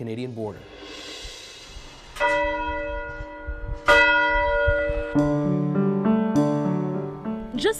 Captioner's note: swoosh; bells ringing